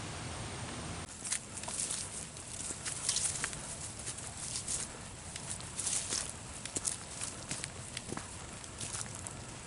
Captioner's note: woodland noises, footsteps, the rustle of leaves, quite soothing really